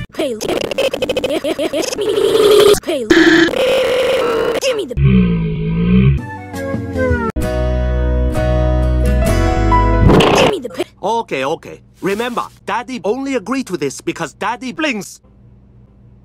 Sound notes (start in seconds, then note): 3.1 this, however, is some distored noise